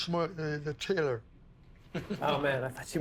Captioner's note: laughing